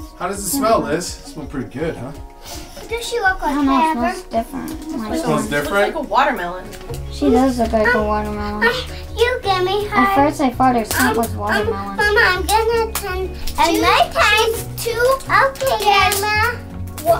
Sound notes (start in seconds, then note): 11.0 babbling to Mommy